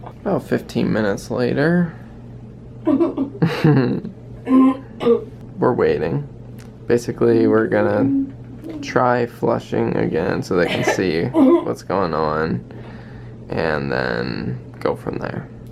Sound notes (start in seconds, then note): 3.6 laughs